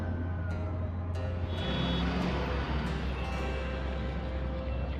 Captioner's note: car horns